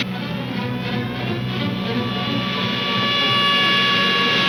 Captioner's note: car buzzing fiercely